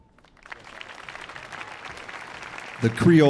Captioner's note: audience applauding